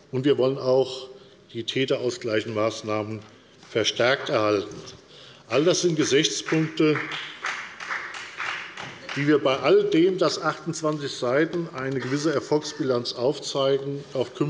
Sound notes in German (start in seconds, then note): 3.2 Beifall bei der FDP und bei Abgeordneten der SPD